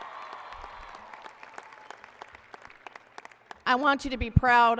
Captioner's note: applause and cheering